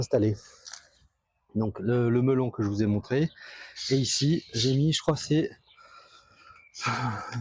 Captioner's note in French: soupir